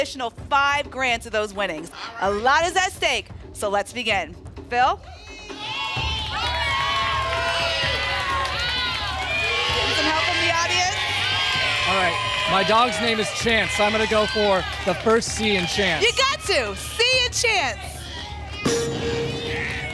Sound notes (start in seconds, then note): 6.9 audience shouting letters; 18.7 ping